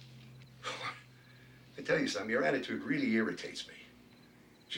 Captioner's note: chuckles